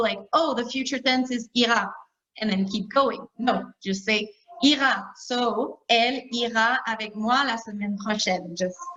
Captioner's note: talking in French